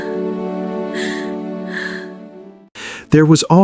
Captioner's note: breathing